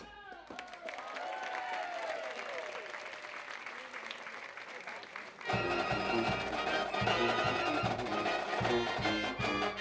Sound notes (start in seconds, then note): 2.2 audience applauding; 5.8 gentle instrumental music